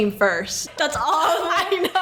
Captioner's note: laughs